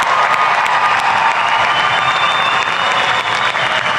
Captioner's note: applause